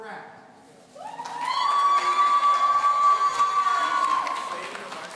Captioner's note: audience cheering